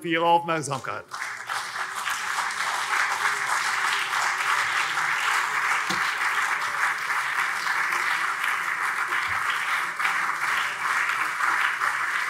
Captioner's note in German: Anhaltender Beifall CDU und SPD